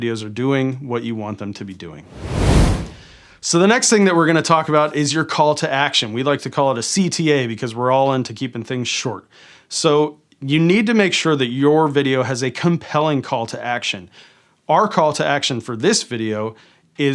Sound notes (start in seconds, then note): 2.0 air whooshing